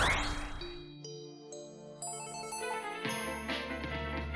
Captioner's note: spell phone rings, playing music